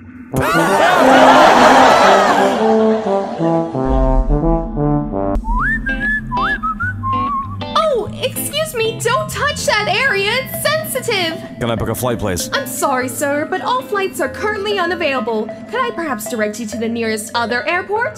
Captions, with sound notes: [laughter] [whistling] Oh, excuse me, don't touch that area, it's sensitive! Can I book a flight, please? I'm sorry sir, but all flights are currently unavailble. Can I perhaps direct you to the nearest other airport?